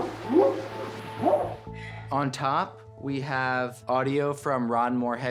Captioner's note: whooping sound